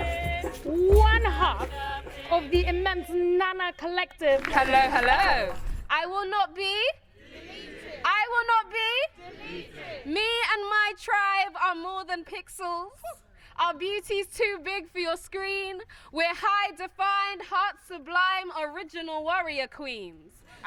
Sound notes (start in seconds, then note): 6.7 crowd